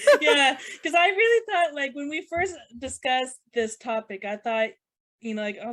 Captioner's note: laughs